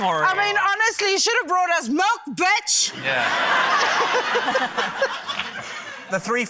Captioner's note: laughter